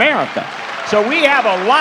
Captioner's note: cheering